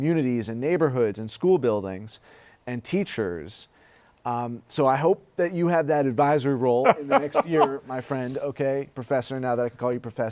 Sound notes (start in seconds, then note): 6.8 laughs